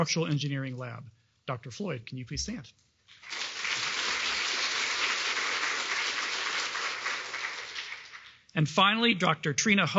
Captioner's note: applause